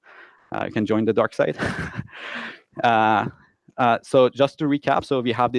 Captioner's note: chuckles quietly